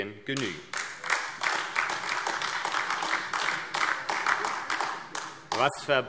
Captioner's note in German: Beifall AfD